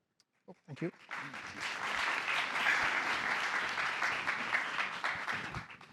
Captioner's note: applause